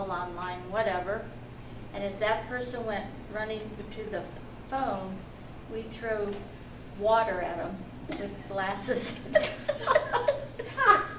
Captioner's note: all laugh